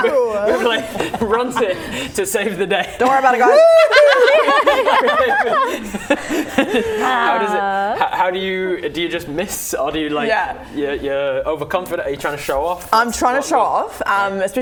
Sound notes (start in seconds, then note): 4.9 laughing